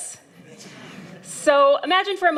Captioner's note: laughter